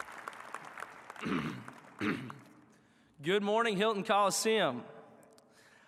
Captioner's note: applause